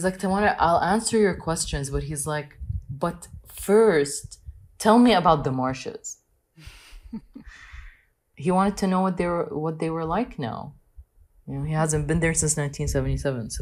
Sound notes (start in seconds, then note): 6.6 laughing